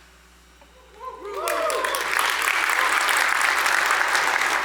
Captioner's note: applause